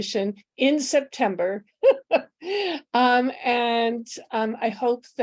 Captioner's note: laughter